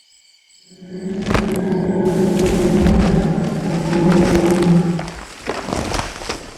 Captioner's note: gasping